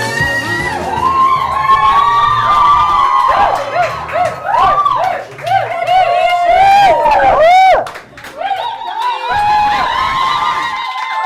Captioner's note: cheers, applause, hollering